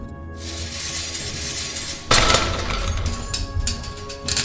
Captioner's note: gate clangs; chain rattles, dramatic music